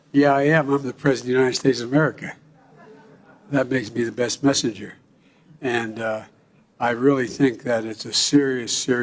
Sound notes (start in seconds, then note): 2.6 laughs; 2.6 laughter